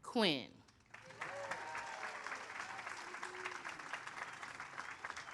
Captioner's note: audience applauds